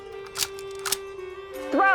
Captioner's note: cocks rifle